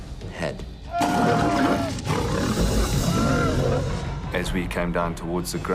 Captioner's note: screaming and growling